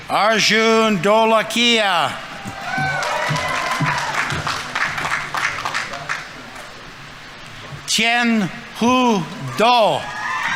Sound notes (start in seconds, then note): 1.3 audience members cheering; 2.4 audience applauding